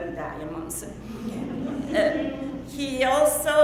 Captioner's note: audience laughing